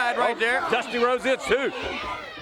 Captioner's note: crowd cheering